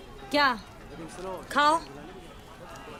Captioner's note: none